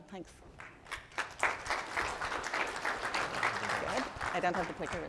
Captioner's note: applause